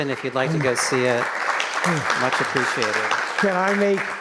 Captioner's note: attendees applauding